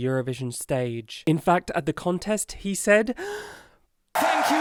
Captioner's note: dramatic inhale